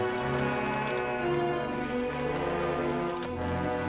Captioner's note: cows mooing